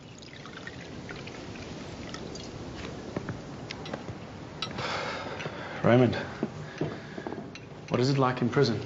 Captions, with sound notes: (splashing) (sighs) - Raymond, what is it like in prison?